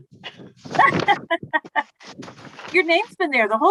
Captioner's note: laughs